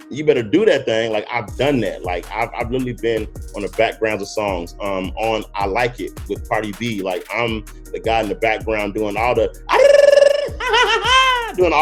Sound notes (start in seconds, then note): 8.7 trills; 10.8 cackles